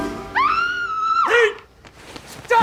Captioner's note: woman Screaming